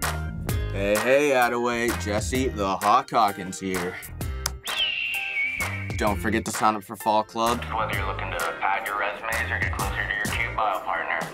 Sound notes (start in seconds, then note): 4.6 hawk screech